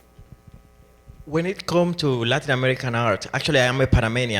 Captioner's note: voiceover